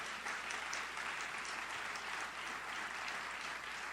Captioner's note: audience applauds